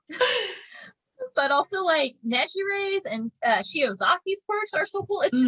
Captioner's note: laughter